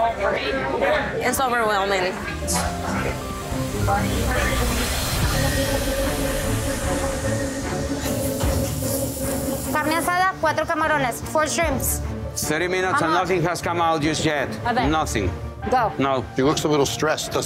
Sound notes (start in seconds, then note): 5.7 intense music; 9.9 speaking Spanish